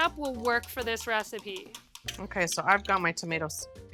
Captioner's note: banging dish